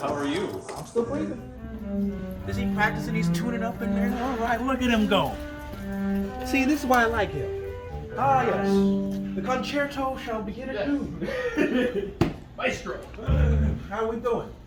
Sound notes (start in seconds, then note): 10.9 laughing